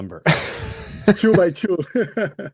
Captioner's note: laughs